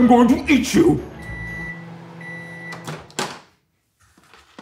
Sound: microwave beeping

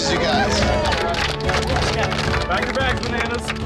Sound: audience applauding

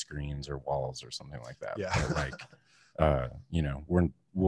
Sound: laughs

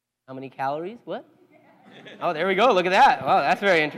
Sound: laugh

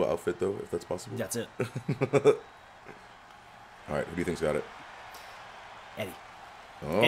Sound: laugh

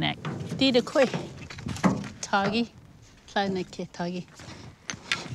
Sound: speaking in her native language

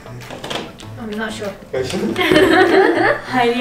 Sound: laughs

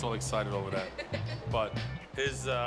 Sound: laughs

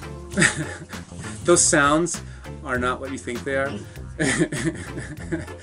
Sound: laughs

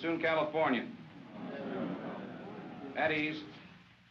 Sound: men grumble

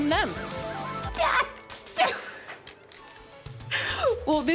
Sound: stammers, laughs

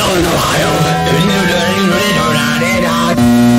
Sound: dying sounds

